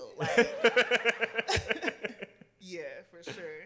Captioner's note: laughs